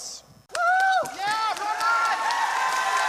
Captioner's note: cheers